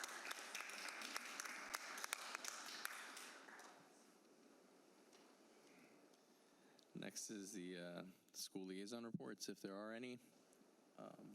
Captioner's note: applause